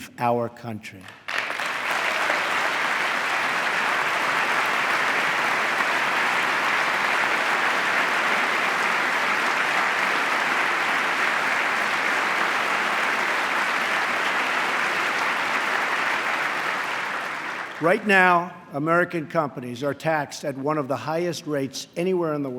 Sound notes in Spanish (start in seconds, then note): 2.6 aplauso